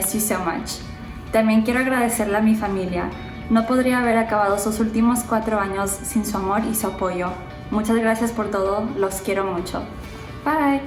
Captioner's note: spanish